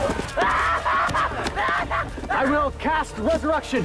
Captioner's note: Patrick Screaming